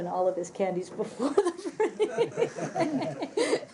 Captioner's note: laughter